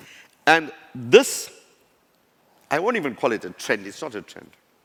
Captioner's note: none